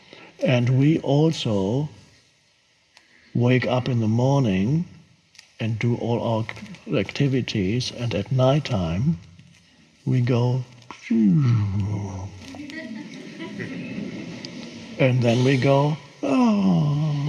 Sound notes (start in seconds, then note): 11.0 moans; 12.6 audience laughs